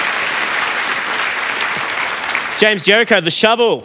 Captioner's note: applause